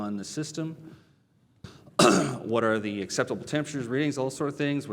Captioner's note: cough